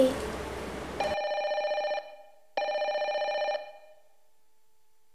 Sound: phone ringing

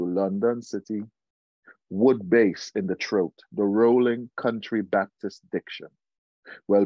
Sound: wood bass in the throat, the rolling, country Baptist diction

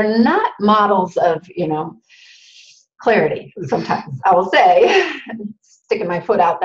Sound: laughs

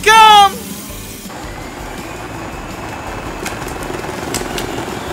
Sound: engines purring

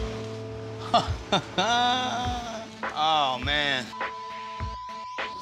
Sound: chuckling

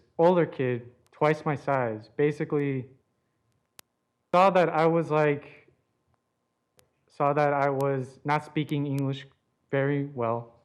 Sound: audio cutting in and out

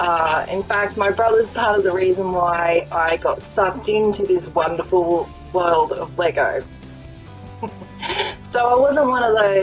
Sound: laughs

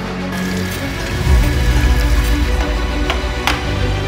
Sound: hammer pounding; machine whirring; drill clanking

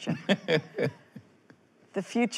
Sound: laughs

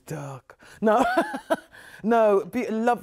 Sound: chuckles

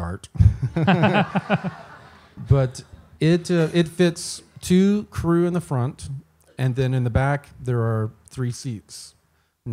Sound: laughs

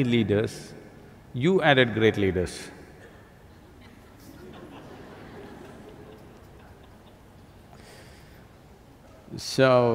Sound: few laugh

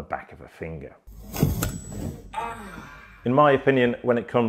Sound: clipper twanging; person groans

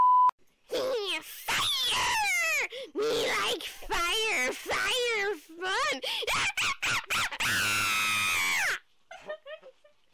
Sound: crazed laughter

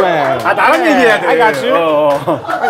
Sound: in Korean

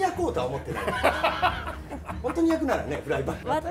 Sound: laughter

